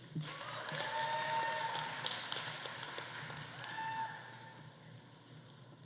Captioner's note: audience cheering; audience applauding